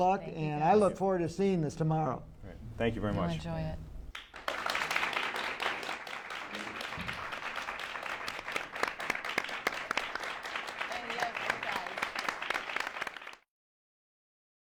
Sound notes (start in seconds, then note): 4.3 applause